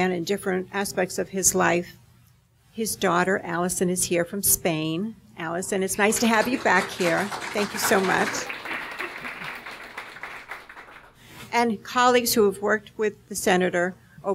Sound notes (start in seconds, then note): 6.0 audience applauding